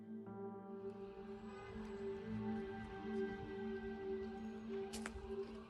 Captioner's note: sirens wailing